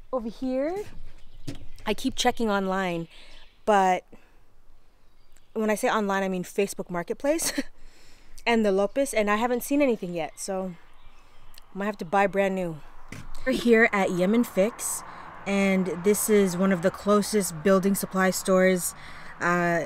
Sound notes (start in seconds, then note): 7.4 chuckles